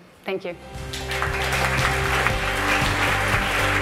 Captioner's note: applause